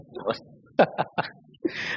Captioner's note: laughs